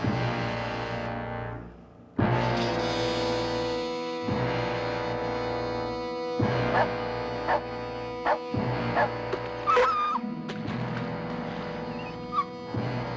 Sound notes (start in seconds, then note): 6.7 Tambu barking; 9.7 yelps